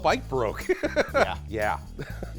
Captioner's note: laughs